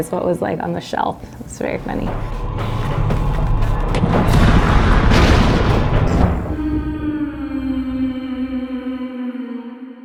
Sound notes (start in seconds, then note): 4.2 crash; 6.5 humming